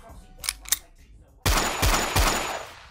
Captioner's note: gunshots